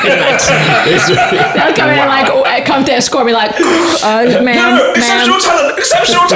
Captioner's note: buzz